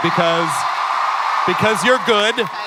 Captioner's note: crowd cheering